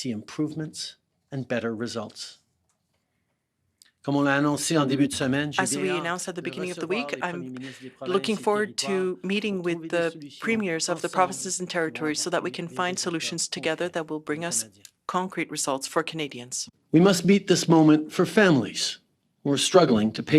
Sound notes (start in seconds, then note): 8.2 speaking French